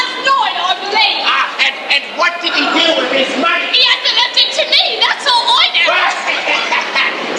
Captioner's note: they laugh